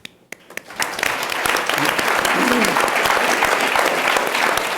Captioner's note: audience applauds